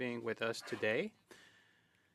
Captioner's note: speaking French